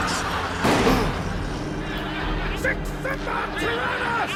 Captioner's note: audience laughs; gun fires